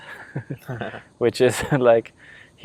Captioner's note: laughing